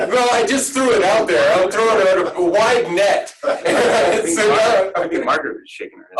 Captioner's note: laughing